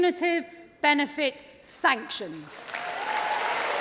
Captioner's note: applause